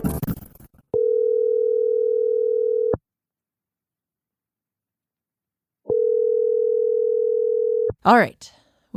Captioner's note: phone rings